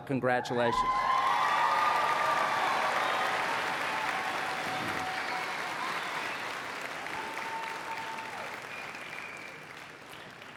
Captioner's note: applause and Cheering